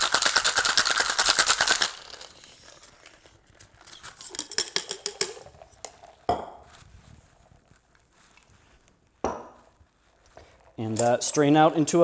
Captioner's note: drink shaking